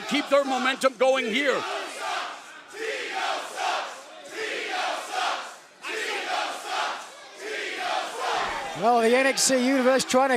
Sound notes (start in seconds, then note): 3.4 crowd cheering